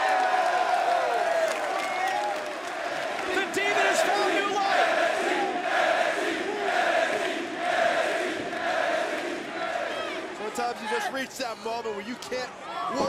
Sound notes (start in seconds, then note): 0.1 crowd chatter; 6.2 crowd cheering